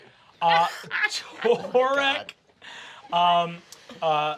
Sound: chuckles

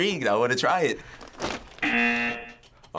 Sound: buzzer

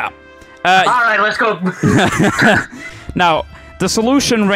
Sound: laughing

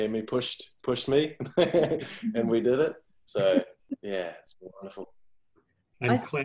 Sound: laughs

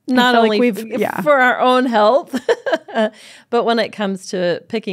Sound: laughs

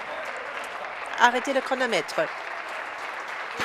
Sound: voice fading; applause

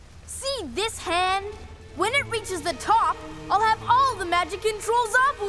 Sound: none

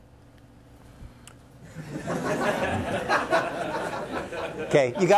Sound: laughter

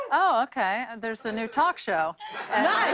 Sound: laughter

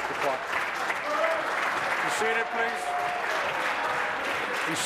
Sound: applause

